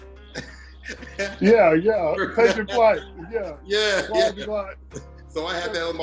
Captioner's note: laughter